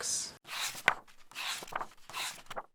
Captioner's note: pages turning